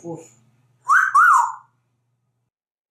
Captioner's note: sexy whistle